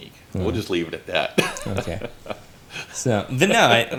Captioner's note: laughs